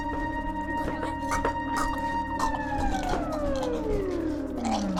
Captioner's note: Dom chocking